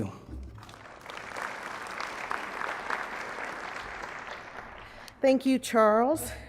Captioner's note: applause